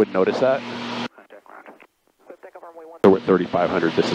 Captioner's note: radio murmuring